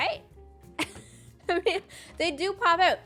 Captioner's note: laughs